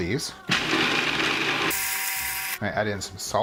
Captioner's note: electronic whirring